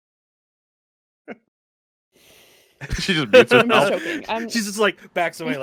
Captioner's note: sighs